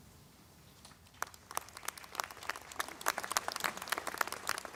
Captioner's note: crowd applauding